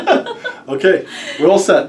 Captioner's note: laughter